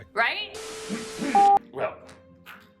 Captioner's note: static hissing